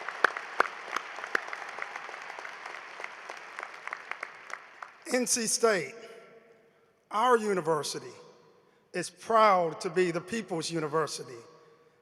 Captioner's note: applause